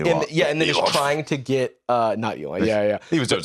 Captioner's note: scoffs